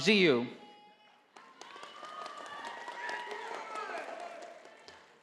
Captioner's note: audience applauding